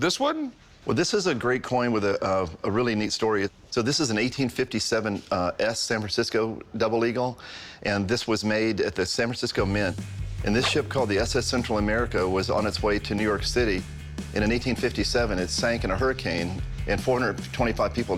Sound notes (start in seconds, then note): none